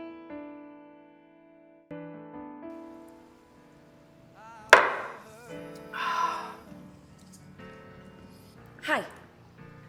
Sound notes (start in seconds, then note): 4.5 mellow music; 5.8 Byron exhales